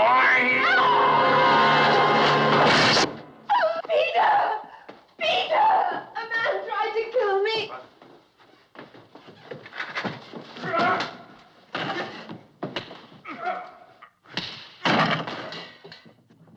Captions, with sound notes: - It’s mine! - [Screams] Peter! Peter! - A man tried to kill me! - What? [Grunting] - [Both Grunting] - [Blows Landing]